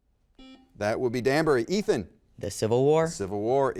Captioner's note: button beeping